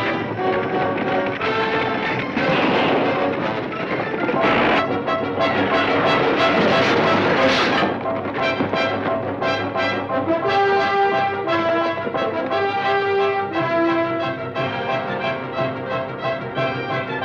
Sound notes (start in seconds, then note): 2.3 gun fires; 6.6 wagon clatters